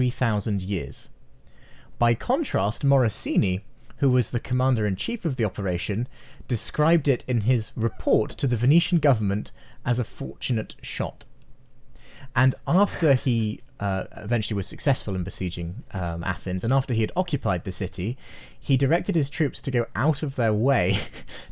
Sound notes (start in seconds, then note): 12.8 chuckles